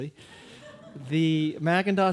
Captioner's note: audience laughing